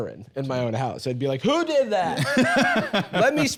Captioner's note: laughs